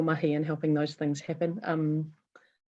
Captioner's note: speaking foreign language